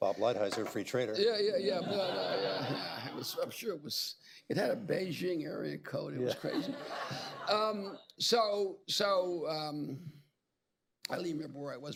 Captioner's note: laughter; laughter